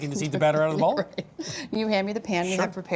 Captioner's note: laughing